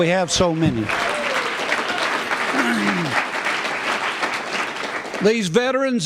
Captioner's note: applause